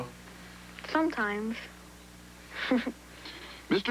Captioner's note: giggles